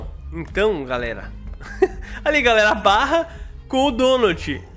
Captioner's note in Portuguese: risos